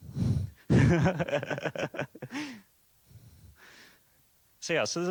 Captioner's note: laughs